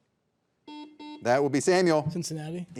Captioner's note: buzzer beeping